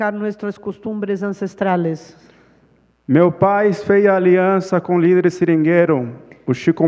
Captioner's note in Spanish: Ponente habla en portugués